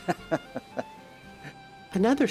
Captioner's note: laughter